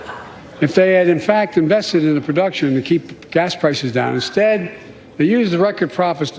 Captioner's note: laughter